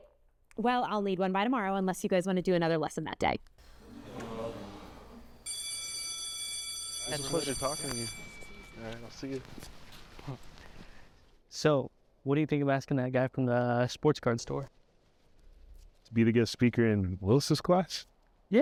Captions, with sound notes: All right, well I'll need one by tomorrow unless you guys want to do another lesson that day. (class grumbles) (bell rings) - It's a pleasure talking to you. All right, I'll see you. - So what do you think of asking that guy from the sports card store? - To be the guest speaker in Willis' class?